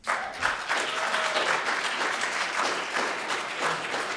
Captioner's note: audience applauding